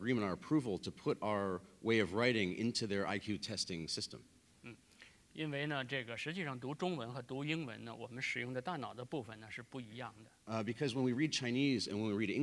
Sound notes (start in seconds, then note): 5.0 speaking in Chinese